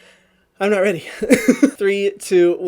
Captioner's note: laughs